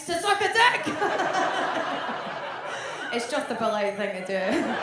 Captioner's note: audience laughs